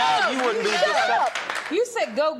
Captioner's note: applause